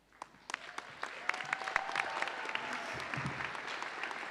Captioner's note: audience applauding